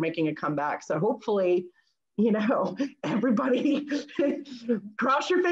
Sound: chuckles

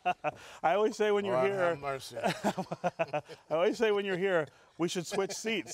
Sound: laughing

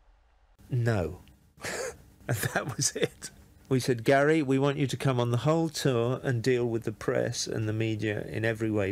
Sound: laughs

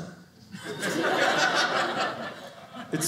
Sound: audience laughing

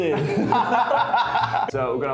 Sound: laughs

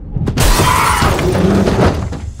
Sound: tires screech

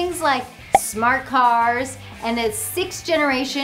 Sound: graphics pop

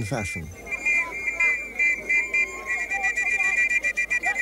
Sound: blows whistle

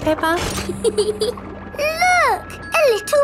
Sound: peppa giggles

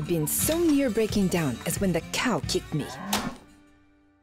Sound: cow mooing

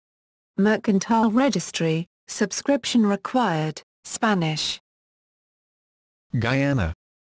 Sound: Spanish

